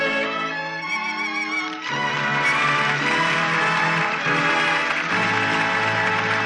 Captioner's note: audience applauding